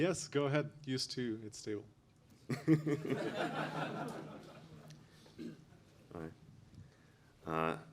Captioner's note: laughter